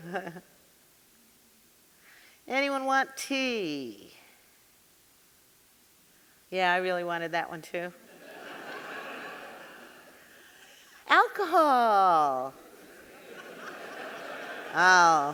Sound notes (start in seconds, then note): 0.0 chuckling; 8.1 audience laughing; 12.6 audience laughing